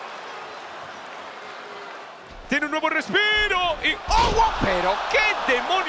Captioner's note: applause